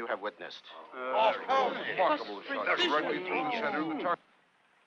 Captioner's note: all chattering